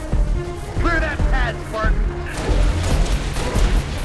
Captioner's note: radio